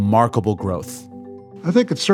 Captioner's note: soundbite of archived recording